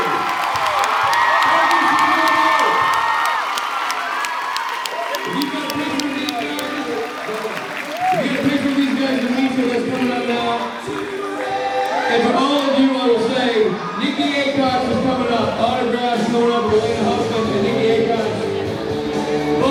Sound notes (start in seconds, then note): 0.1 cheers, applauds; 6.4 applauds